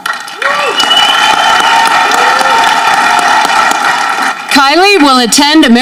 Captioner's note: audience clapping